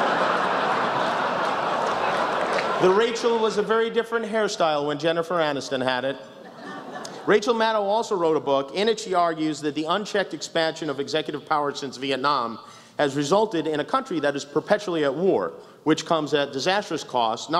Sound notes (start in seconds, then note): 0.0 laughter; 6.4 some laughs